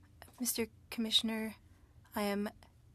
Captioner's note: speaking French